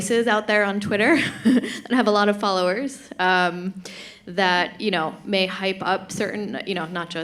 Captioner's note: chuckles